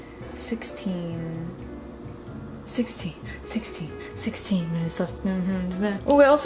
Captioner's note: hums